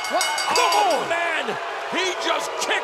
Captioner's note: bell ringing